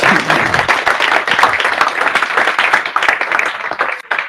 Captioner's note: audience clapping